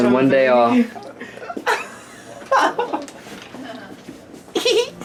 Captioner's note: laughing; cute giggles